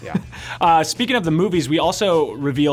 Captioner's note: laughs